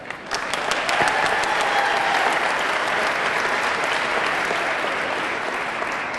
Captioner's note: audience clapping; audience cheering